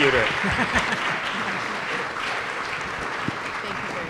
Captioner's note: applause